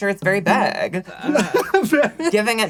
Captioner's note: laughs